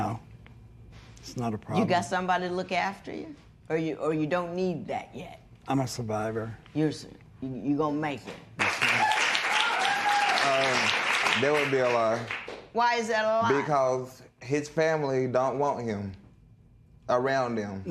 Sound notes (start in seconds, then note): 8.6 cheers and applause